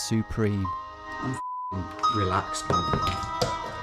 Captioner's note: beep